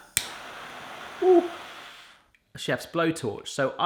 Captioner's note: torch hissing